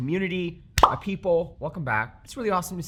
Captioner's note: icon popping